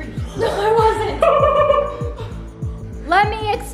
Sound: laughing

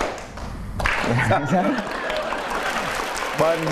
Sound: laughing

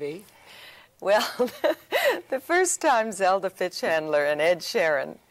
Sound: laughs

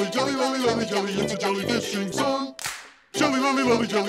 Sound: clap

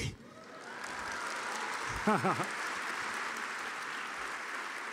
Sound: audience applauding

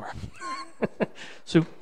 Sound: laughs

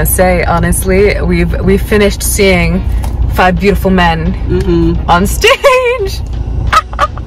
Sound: cackles

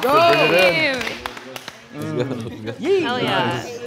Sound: laughing

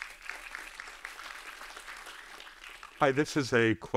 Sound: audience applauding

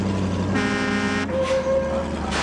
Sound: truck honks

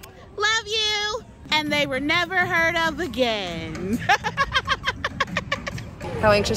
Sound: laughs

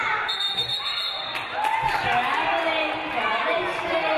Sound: referee blows whistle

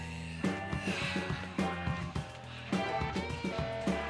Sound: Ed sighs

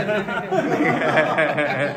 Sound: everyone laughs

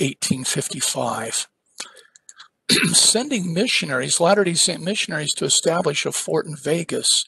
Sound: cough

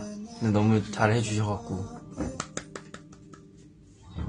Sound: claps

